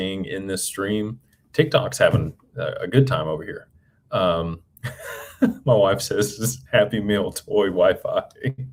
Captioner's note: laughter